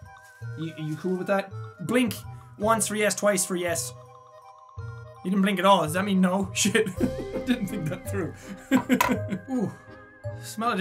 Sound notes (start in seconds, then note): 8.6 laughs